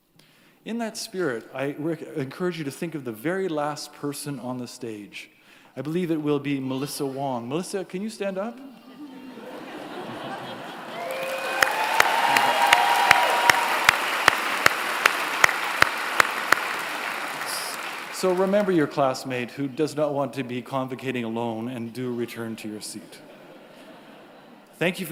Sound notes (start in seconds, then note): 13.3 applause